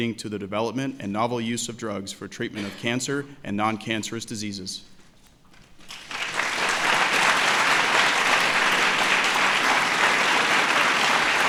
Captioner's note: applause